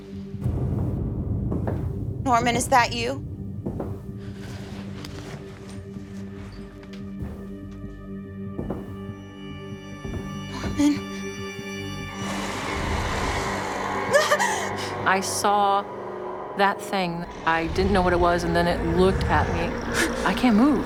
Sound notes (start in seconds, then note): 11.9 Jennifer gasps; 11.9 eerie music